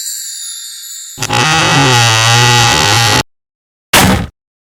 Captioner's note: creaking door; door slams shut!